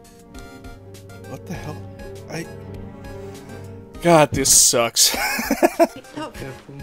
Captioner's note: wheezing chuckle